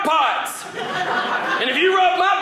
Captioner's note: audience laughing